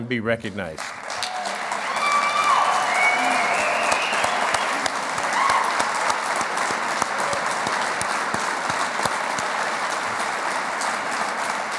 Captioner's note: clapping